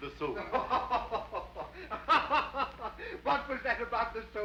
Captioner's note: Rawdon laughs